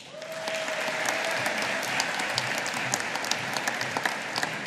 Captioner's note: audience applauding